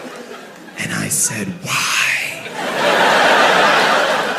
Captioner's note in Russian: шепотом